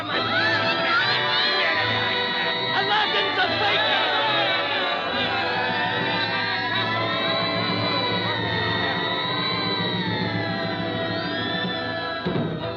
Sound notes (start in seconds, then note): 0.9 Olive and Popeye screaming; 5.9 citizens yelling